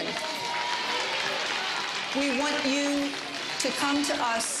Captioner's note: applause